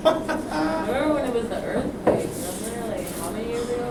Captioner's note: voiceover